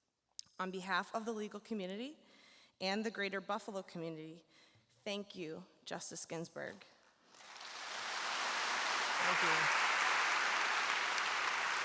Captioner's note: applause